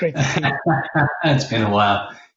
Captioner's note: laughs